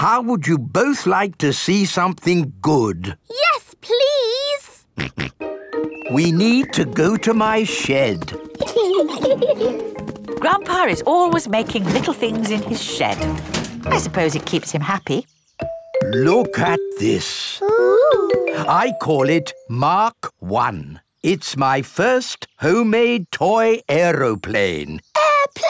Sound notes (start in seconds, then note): 5.1 snorts; 8.6 giggling